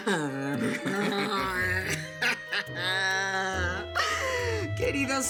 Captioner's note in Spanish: Risas sarcásticas